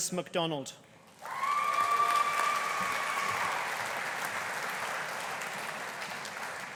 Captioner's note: audience applauding; audience cheering